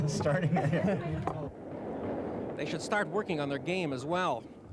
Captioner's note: laughter